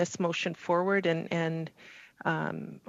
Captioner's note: speaking French